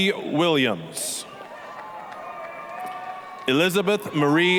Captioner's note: applause, cheering